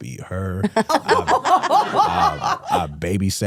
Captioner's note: hosts laughing